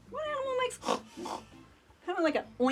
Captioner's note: snorting